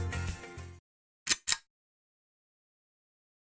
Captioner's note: click